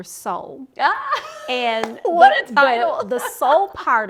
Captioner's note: laughing